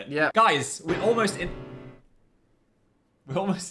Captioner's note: piano slams